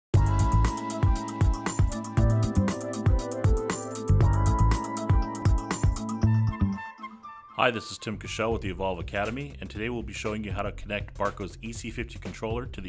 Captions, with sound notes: (digital music) - [Voiceover] Hi, this is Tim Kuschel with the Evolve Academy and today we'll be showing you how to connect Barco's EC-50 Controller to the